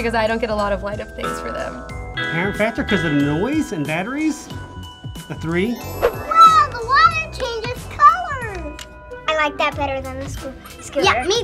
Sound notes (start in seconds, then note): 1.2 strumming noises; 5.6 magical twinkles